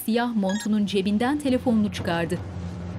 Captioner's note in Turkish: Telefon zili sesi